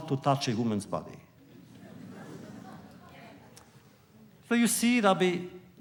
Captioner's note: laughter